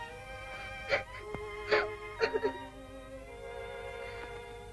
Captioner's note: sobbing